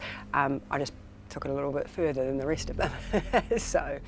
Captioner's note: chuckles